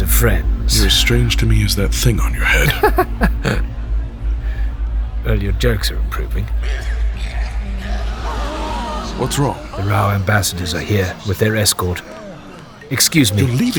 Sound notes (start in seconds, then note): 2.2 Yoba uncomfortable laughing; 6.6 sounds of crowd gasping, distant coughing